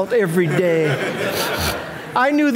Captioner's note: audience laughing